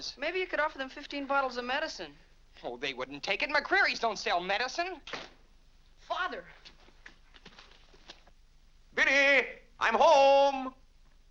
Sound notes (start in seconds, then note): 5.0 door closes